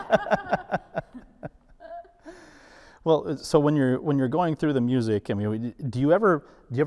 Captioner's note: laughter